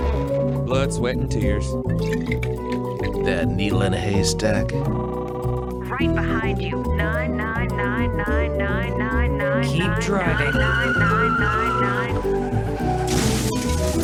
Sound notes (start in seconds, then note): 2.0 drink mixing sounds; 4.3 phone ringing